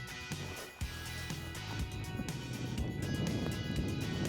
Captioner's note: windy noise